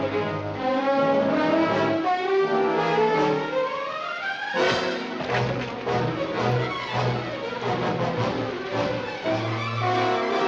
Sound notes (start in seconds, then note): 4.7 thudding; 7.8 tense music